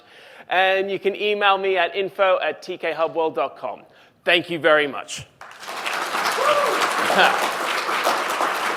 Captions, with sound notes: And you can email me at info@TKhubworld.com. Thank you very much. (APPLAUSE)